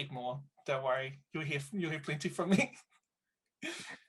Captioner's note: laughs